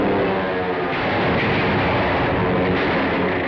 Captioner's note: explosion